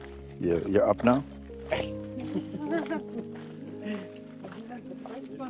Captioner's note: laughter